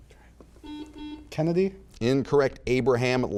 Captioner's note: buzzer beeping